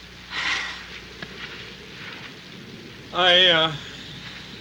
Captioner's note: Marcia sighs